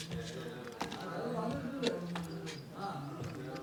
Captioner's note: indistinct chatter